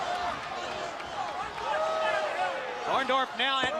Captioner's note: crowd chatter